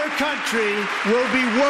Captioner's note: applause